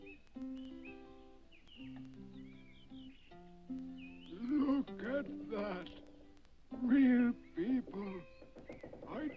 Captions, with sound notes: - Look at that, real people. (wood creaks) I don't believe it.